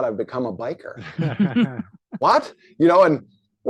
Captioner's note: laughing